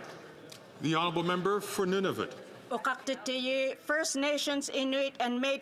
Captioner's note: some Applause